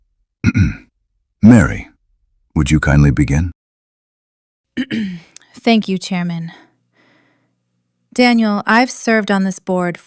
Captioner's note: clears throat; clears throat